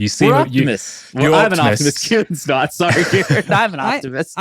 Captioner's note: laughing